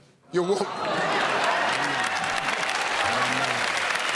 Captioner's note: cheers and applause